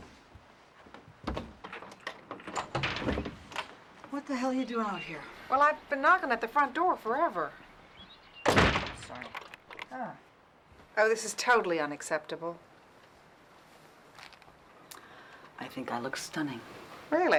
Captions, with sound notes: (door creaking) What the hell you doing out here? - Well, I've been knocking at the front door forever. (door thudding) - Sorry. - Oh, this is totally unacceptable. - I think I look stunning. - Really?